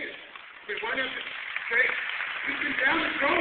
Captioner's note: applause